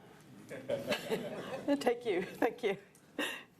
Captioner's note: laughter